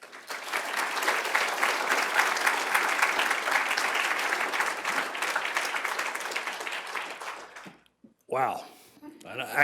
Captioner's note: applause